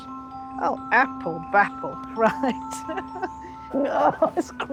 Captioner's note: laughs